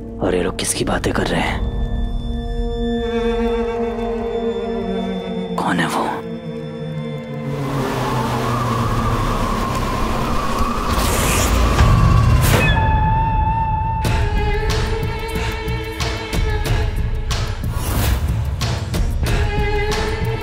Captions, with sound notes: Who are they afraid of? [eerie music] Who is it? [wind blowing] [tense music]